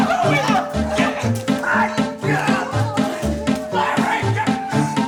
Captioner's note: all yelling; all yelling